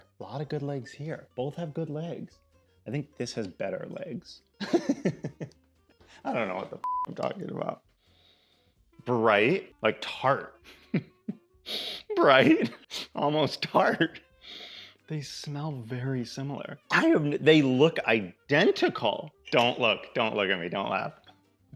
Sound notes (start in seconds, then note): 4.6 laughs; 10.6 chuckles